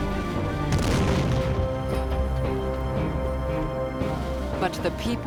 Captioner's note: cannon fire